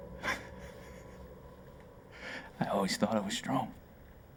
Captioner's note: laughing